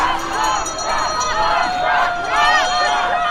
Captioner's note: horn honks; sirens wail; bells clang